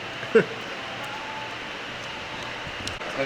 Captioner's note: laughs